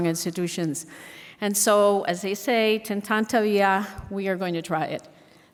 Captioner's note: speaks in foreign language